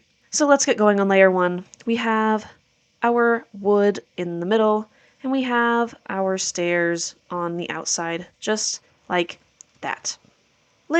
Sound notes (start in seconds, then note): none